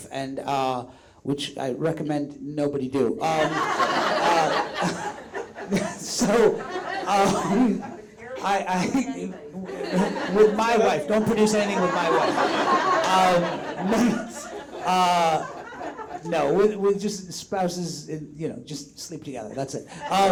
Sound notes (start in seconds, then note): 3.1 audience laughs; 13.0 audience laughs